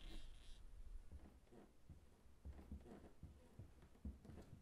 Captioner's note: door creaking